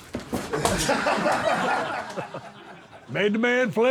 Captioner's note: all laughing